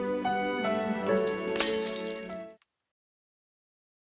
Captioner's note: glass shattering noises